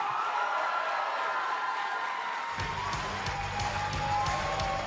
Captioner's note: cheers & applause